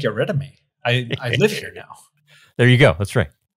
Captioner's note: laughs